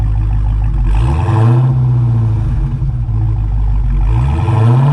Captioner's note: engine revving